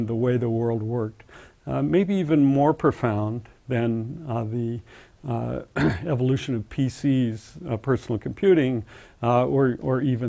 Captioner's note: cough